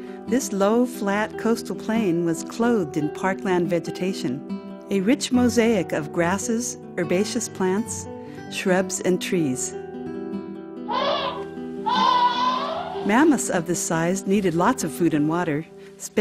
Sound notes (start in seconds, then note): 10.8 mammoth trumpeting